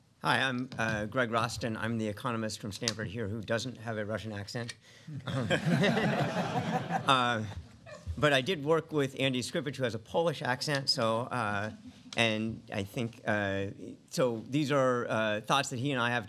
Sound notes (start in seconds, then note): 5.2 laughter